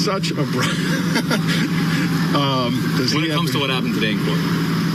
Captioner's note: laugh